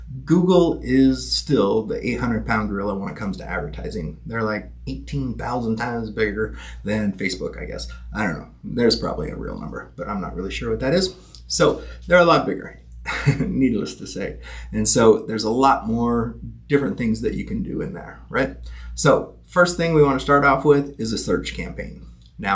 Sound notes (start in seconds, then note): 13.0 chuckling